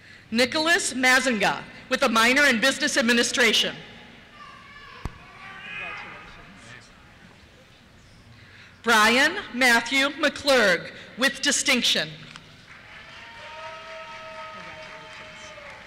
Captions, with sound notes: - [Voiceover] Nicholas Mazzenga, with a minor in Business Administration. (cheers) Congratulations. Thank you. Brian Matthew McClurg, with Distinction. (cheers) Congratulations.